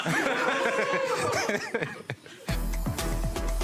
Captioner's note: crowd laughing